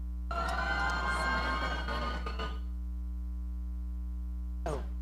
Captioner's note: audience cheering